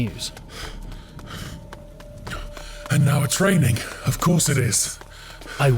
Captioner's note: SFX rain begins